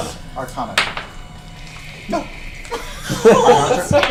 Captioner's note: laughs